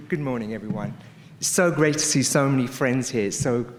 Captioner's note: none